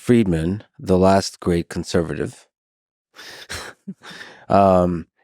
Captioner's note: chuckles